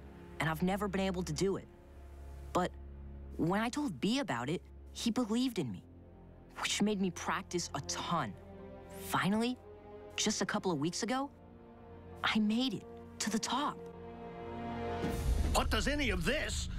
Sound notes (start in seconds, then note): none